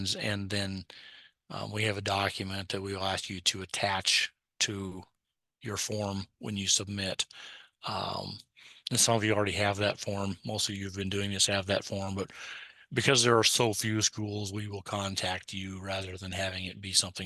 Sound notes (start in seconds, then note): none